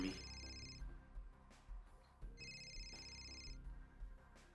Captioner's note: phone ringing